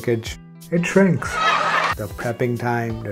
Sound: audience laughs

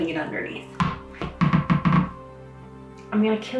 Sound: dog ball bouncing

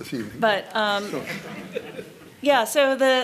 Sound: laughter

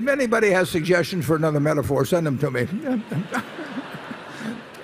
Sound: laughter

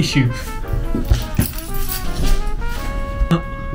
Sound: keys jangle

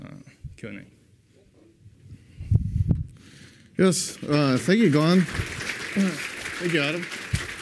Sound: applause

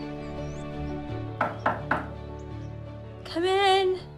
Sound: knocking at door

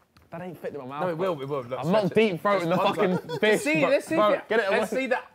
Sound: group chattering

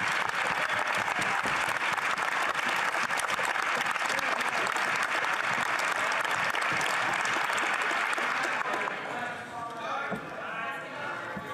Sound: some Applause

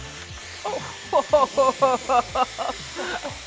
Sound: laughs

